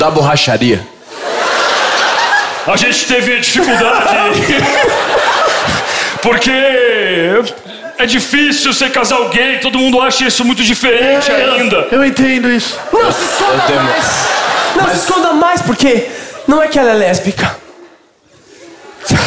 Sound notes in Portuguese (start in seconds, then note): 3.0 voz grossa